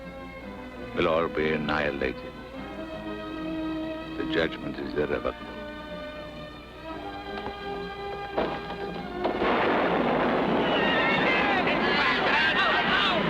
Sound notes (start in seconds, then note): 9.2 lightning crashing; 10.3 crowd shouting